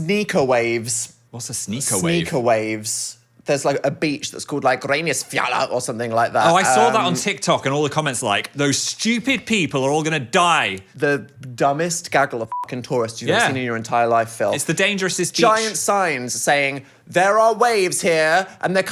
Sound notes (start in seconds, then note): 12.5 beep